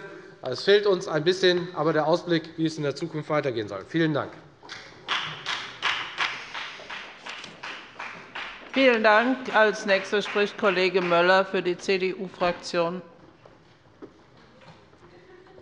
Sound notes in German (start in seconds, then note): 4.7 Beifall der Abg